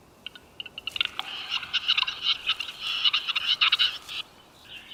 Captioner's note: chattering